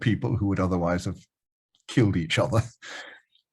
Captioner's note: chuckles